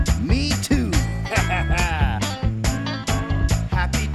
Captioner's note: upbeat music; Penguin laughs